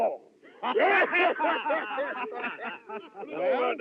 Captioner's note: all Laughing